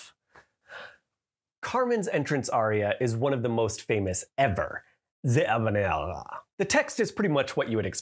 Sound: mock French accent

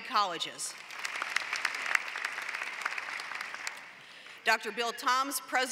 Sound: applause

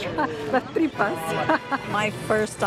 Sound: laughs; in Spanish

